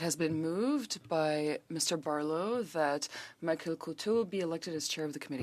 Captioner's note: speaking French